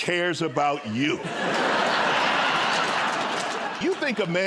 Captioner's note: laughter